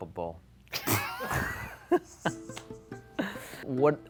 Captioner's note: group laughing